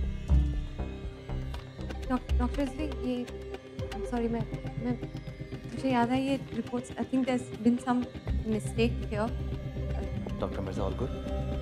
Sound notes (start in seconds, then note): 1.9 Stammering